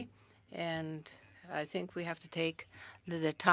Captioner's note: speaking French